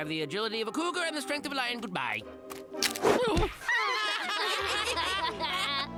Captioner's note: laughing